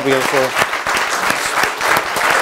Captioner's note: applause